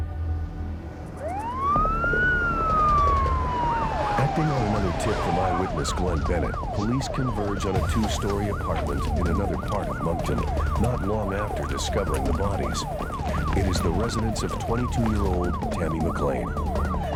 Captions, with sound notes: (Police siren wailing) ACTING ON ANOTHER TIP FROM EYEWITNESS, GLENN BENNETT, POLICE CONVERGE ON A TWO-STOREY APARTMENT IN ANOTHER PART OF MONCTON, NOT LONG AFTER DISCOVERING THE BODIES. IT IS THE RESIDENCE OF 22-YEAR-OLD TAMMY MACLEAN.